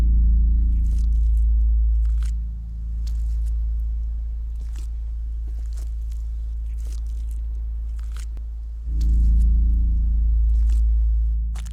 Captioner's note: children Whispering; footsteps Crunching